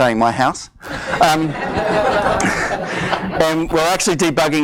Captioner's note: audience laughs